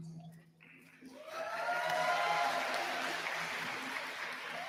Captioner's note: applause